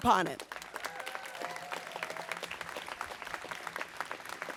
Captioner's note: audience applauds